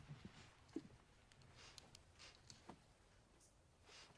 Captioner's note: sniffs